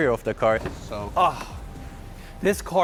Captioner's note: gasps